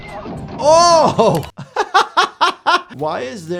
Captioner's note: chuckling